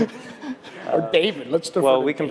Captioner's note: laugh